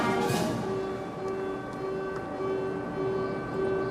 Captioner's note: claxon sounding